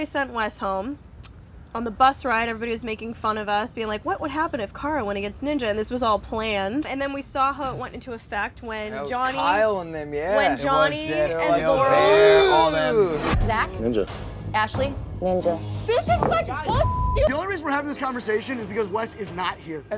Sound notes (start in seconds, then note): 11.6 air whooshing; 16.7 beep